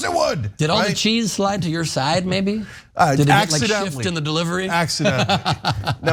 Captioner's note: laugh